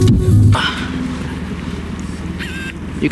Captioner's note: sigh